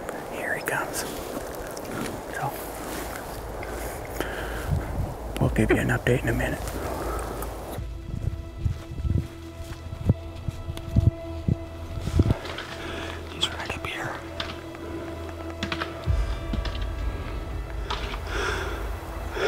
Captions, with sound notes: Here he comes. We'll give you an update in a minute. He's right up here. (Caller raking)